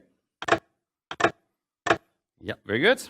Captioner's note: mechanical clacking